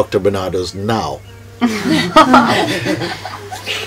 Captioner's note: laughter